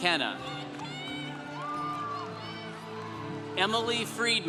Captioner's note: congregation cheering